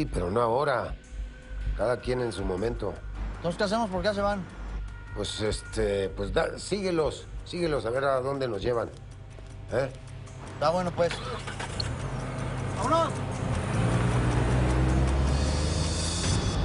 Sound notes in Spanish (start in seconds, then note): 11.0 Ruido al prender el motor